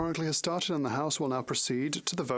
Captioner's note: speaking French